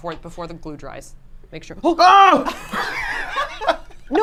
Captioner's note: scream; laughs